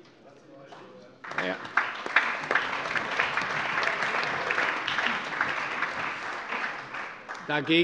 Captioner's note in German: Allgemeiner Beifall